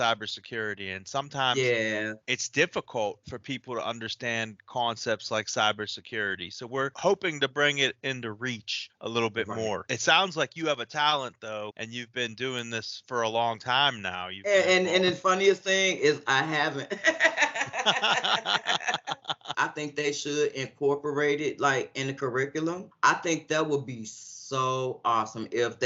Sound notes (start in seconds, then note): 16.8 laughing